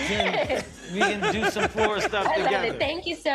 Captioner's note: laughter